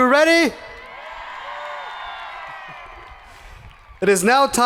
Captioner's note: people cheering; hands clapping